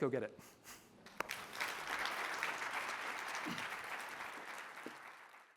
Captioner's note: audience applauds